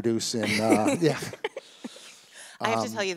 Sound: laugh

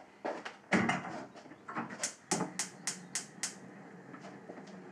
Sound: pilot light clicking

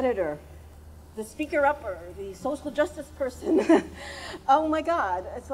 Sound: chuckles

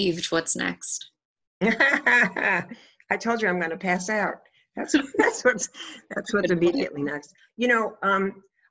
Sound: laughs

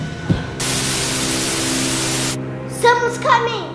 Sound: TV static

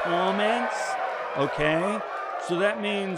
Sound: cheering

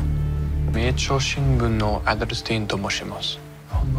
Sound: speaking in japanese

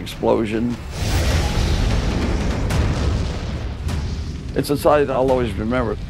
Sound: explosion

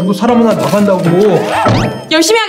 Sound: thump

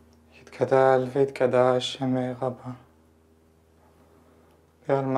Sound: speaking Yiddish

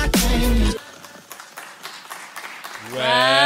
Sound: clapping

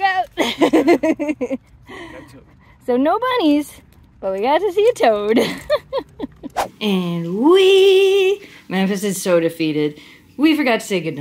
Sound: laughter

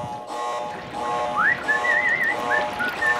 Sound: whistling

